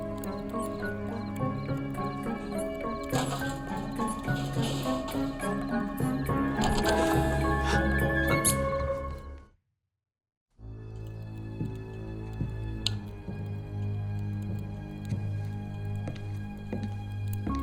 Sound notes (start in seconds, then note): 6.8 Nigel gasps; 6.8 door knob rattling; 10.6 suspenseful music; 12.7 shoes clacking